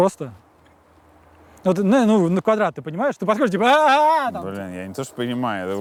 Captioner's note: exclaims gleefully